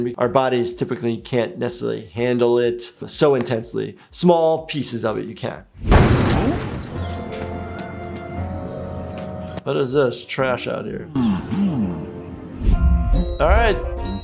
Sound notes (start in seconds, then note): 5.8 crash; 11.2 happy upbeat music